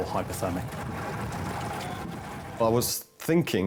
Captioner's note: lifeboat engine whirring